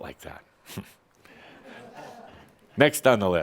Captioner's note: a few chuckles